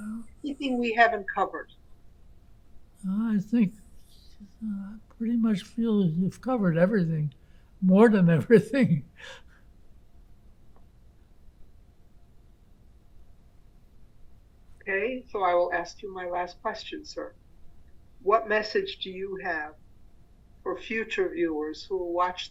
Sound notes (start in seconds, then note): 7.9 laughing